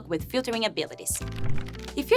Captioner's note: fluttering